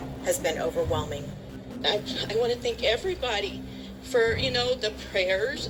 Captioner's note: on TV